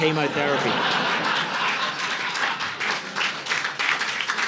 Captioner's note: audience laughing